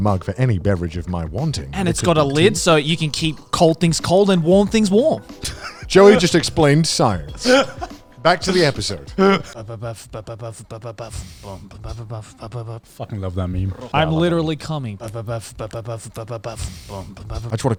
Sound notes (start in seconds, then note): 5.4 laughing; 8.4 beatboxing; 16.4 beatboxing